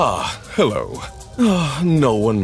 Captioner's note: sigh